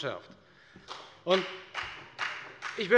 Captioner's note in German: Beifall bei der FDP